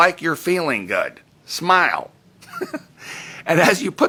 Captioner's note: giggles